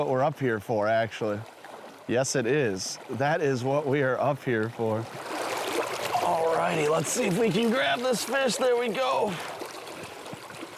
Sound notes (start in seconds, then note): 5.9 stream water running